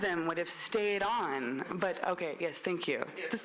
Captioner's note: laughter